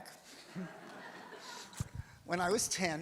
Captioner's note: audience laughs